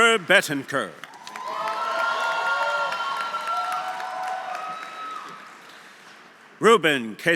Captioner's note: audience applauding; audience cheering